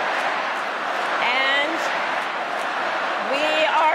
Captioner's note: crowd chanting